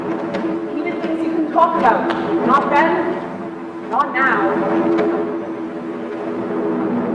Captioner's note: sound of aircrafts, gunfire; sound of aircrafts, gunfire